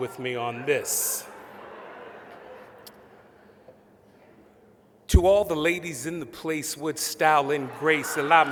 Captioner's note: laughter; laughter